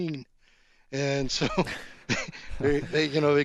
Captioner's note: laughing